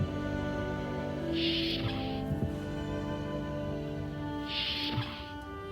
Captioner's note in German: Türe öffnet und schließt sich